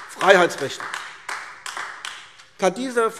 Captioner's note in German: Beifall AfD